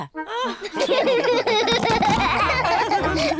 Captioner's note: all laugh